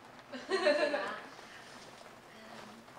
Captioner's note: laughter